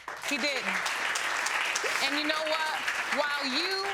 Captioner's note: audience applauding